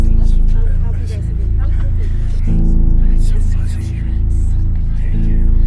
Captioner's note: distant chattering